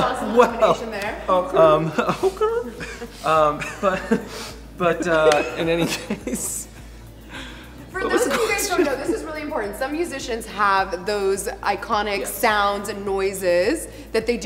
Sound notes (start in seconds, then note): 4.6 laughs; 8.0 laughs